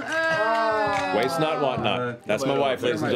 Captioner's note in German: Ächzen